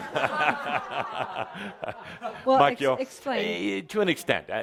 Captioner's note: laughter